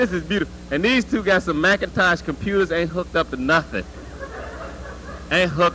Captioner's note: laughter